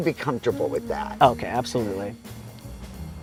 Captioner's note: pat